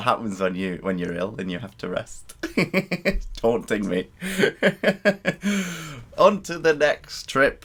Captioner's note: laughter